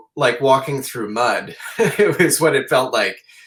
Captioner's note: chuckles